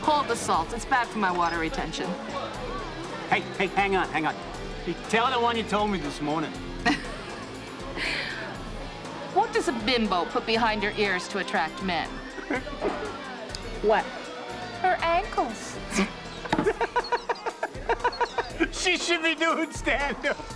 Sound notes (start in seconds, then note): 6.8 chuckles; 12.3 chuckles; 15.9 laughs hysterically